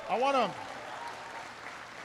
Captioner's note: applause